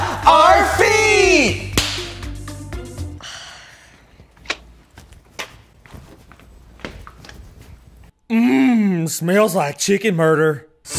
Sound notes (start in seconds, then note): 1.7 hands clap; 3.4 waiter sighs; 4.2 shoes knocking